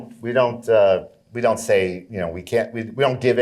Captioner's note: none